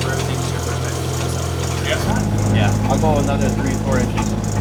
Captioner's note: augur drowns out speaker